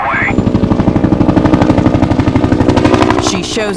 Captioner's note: helicopter thrumming